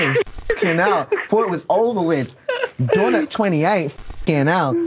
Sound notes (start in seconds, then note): 0.5 laughs